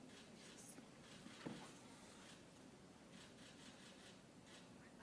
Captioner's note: cameras clicking